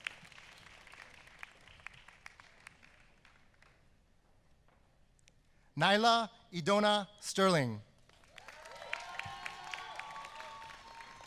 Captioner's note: applause